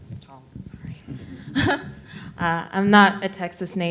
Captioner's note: faintly speaking